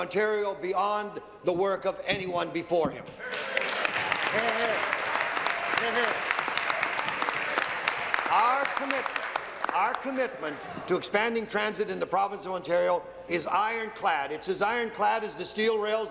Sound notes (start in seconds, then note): 6.0 applause